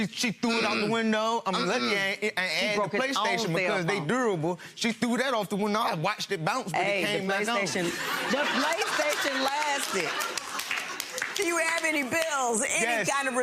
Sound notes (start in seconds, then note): 10.3 laughing